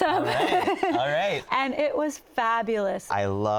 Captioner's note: laughs